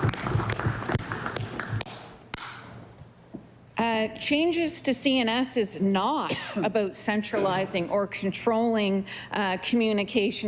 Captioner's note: applause